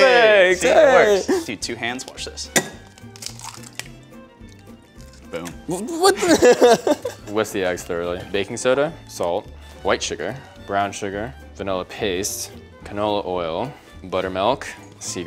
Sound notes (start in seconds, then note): 2.5 eggs crack; 6.0 laughing